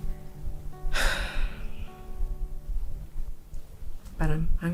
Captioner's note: sighs